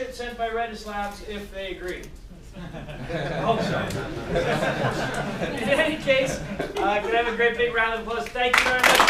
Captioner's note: people laughing and clapping